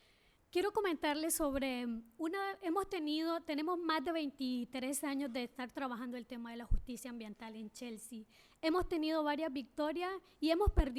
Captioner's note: speaking spanish